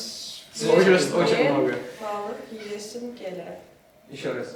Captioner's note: repeating Turkmen